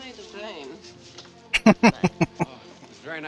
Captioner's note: laughing